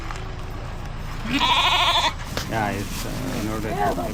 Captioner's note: goat bleating; men speaking in foreign language